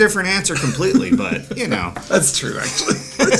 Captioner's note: laughs